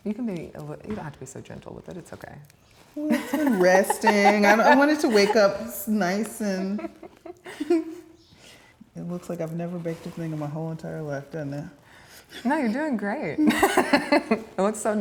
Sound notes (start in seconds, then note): 3.0 laughs; 8.1 giggles; 13.4 laughs